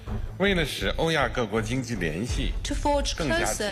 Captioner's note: Xi speaking foreign language